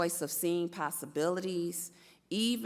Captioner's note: none